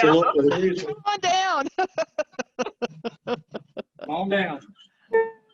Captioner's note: laughing